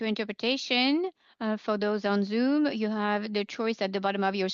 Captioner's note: speaking French